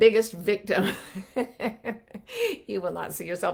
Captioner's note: laughing